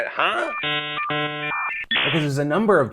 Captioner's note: computer dial up tone